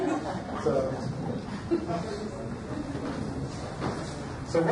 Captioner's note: audience laughs